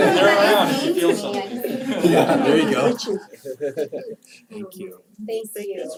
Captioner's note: laugh